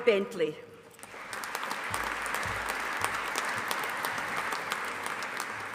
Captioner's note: audience applauding